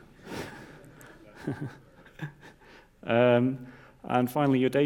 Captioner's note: audience laughs